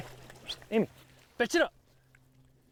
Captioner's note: whistles